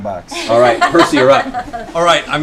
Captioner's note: laughter